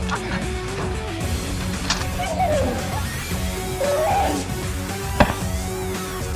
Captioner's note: crinkle of vines; sound of wounded creature